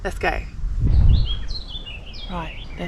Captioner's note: whoosh